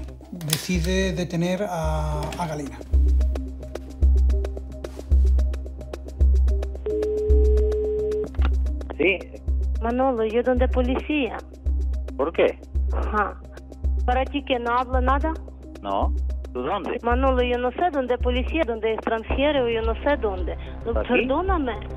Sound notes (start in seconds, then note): 6.8 dial tone